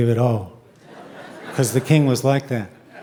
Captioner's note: audience laughing